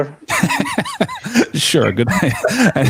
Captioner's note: laughter